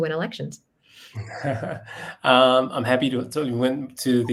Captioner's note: laugh